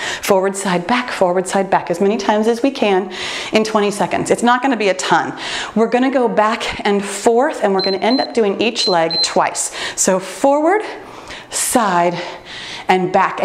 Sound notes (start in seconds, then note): 7.7 timer beeps